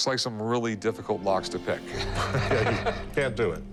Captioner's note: laughs